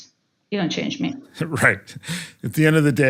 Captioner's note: laugh